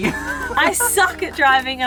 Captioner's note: laughing